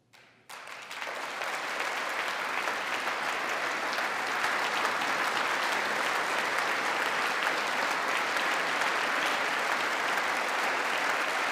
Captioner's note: applause